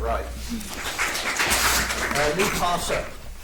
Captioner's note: audience applauds